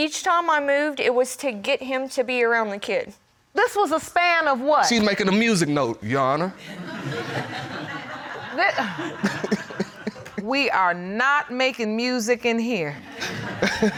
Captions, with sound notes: But each time I moved, it was to get him to be around the kid. -This was a span of what-- -She makin' a music note, Your Honor. [audience laughing] We are not making music in here.